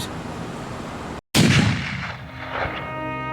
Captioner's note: shot firing; solemn music